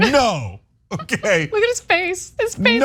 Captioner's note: laugh